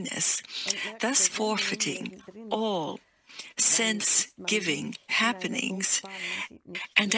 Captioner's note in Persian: پر احساس